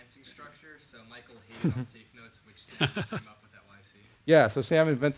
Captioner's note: audio drowned out by instructor's laughter